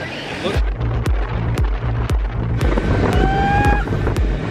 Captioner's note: strong wind